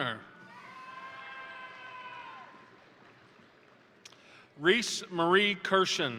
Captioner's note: crowd cheering; crowd applauding